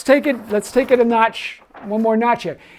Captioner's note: paper rustling